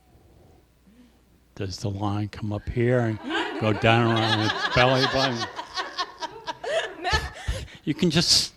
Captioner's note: laughter